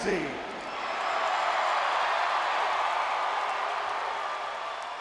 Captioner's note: audience cheering